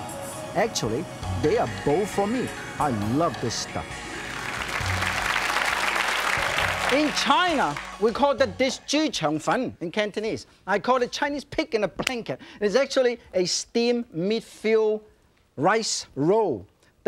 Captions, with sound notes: Actually, they are both for me. I love this stuff. (audience claps) In China, we call call the dish jyu cheung fun, in Cantonese. I call it Chinese pig in a blanket, and it's actually a steamed meat-filled rice roll.